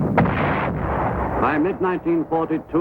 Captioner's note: artillery firing